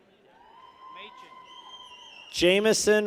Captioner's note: people cheer